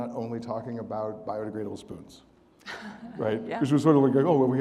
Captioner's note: audience laughing